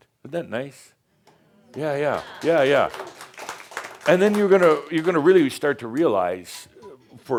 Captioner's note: some applause